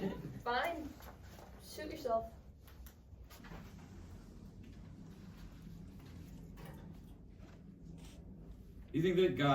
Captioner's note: audience laughs